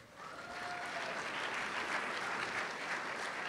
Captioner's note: applause